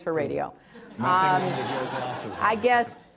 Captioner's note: laughter